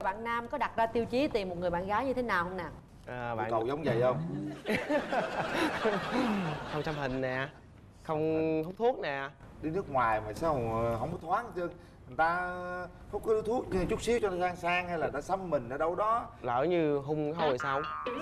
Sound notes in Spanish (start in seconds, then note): 4.4 ríe